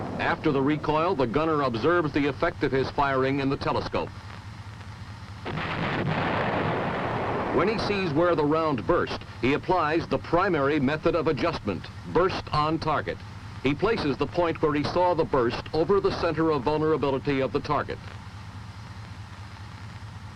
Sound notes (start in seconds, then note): 5.4 shell exploding